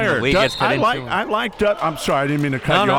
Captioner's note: whistle blows